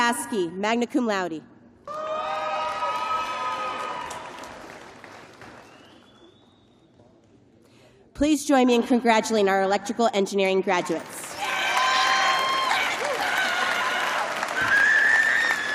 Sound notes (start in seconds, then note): 3.6 cheers and applause